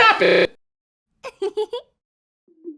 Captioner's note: girl giggling